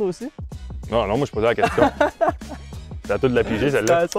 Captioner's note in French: rires